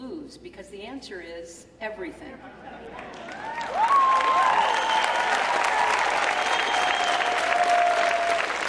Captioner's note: cheering!!